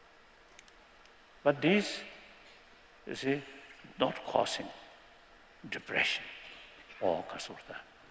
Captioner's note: non-english